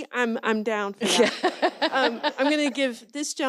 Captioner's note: laughs